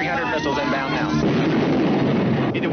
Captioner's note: rocket rumbling